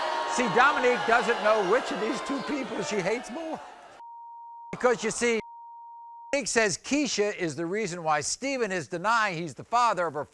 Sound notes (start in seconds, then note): 4.0 beep